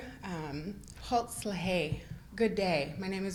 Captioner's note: Speaks Lushootseed